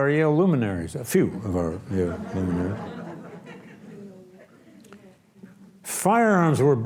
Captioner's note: audience laughs